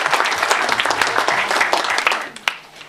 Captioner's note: applause